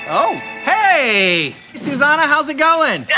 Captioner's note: phone Ringing